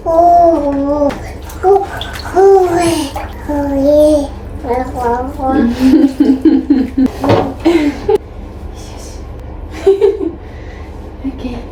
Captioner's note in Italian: risate